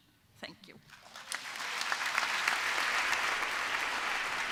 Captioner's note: applause